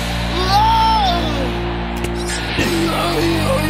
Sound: screaming

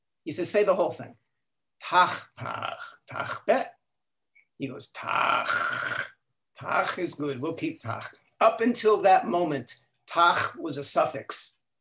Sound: speaking in Klingon

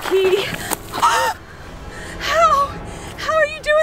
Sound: gasps

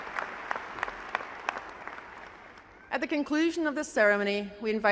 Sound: applause

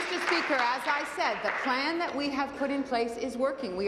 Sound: applause

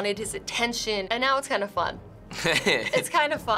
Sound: chuckles

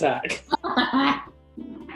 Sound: laughing

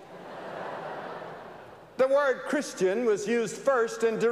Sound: laughter

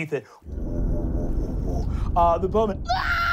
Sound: deep, guttural noises; screaming

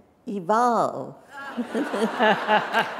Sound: applause

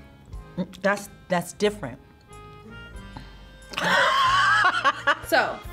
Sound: laughs

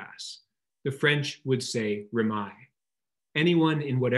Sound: speaks in foreign language

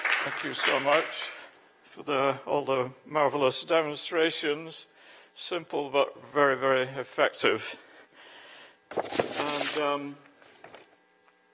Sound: applause

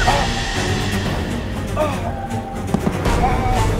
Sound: groaning in pain

